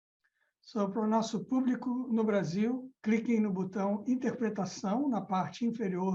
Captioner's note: speaking in foreign language